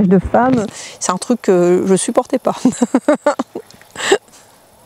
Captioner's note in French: Rires